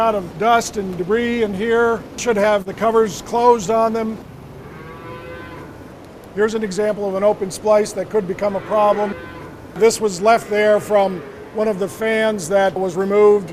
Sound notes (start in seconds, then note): 4.6 cow moos